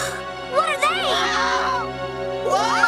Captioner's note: screams